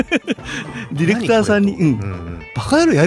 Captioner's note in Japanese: 笑い